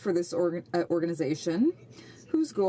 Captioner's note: speaking French